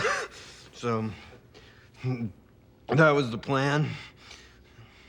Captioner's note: coughs